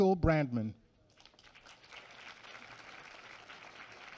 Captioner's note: applause